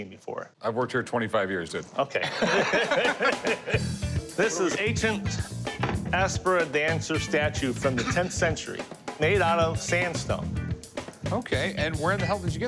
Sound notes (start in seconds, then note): 2.2 laughs